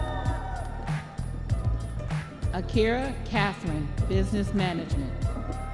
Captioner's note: audience members cheering